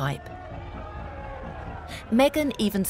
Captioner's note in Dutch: publiek schreeuwt